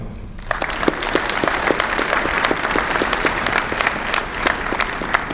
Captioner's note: applause